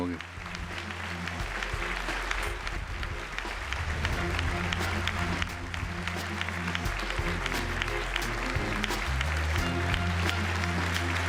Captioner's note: applause